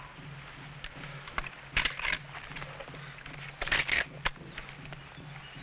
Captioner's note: rifle cocking